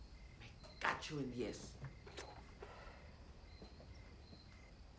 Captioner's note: speaking in Spanish